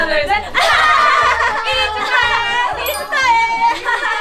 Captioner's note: giggles